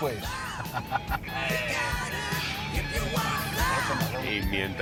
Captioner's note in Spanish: Risas